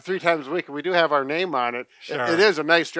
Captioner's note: laughs